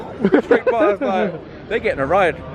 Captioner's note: laughing